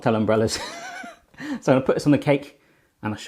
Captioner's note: laughing